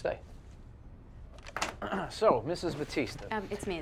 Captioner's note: Tommy clears his throat